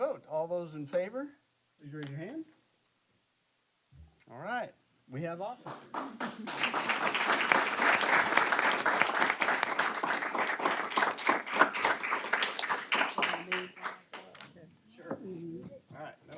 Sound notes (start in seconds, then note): 5.6 applause